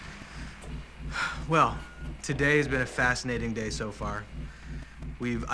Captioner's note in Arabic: يزفر بعمق